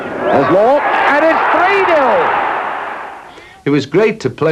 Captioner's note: crowd roaring